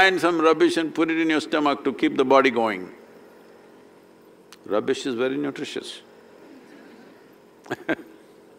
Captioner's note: laughter